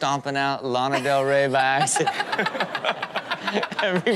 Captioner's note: everyone laughs